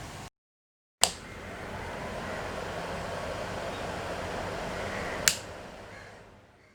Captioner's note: loud fan whirring noise